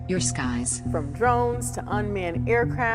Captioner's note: soundbite of archived recording